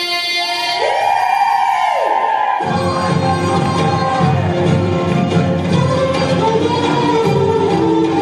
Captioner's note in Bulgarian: аплодисменти